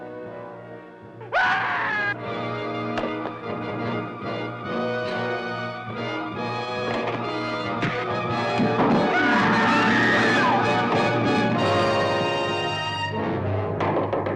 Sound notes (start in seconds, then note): 1.3 man screaming; 2.9 blows thudding; 9.0 Jonah screaming; 9.1 Sheila screaming